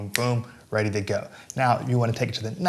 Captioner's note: snaps fingers